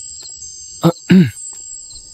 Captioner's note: clears throat